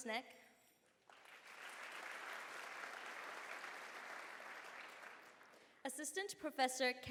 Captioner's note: applause